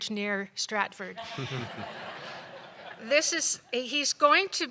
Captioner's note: laughter